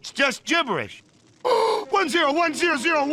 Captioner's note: bender noises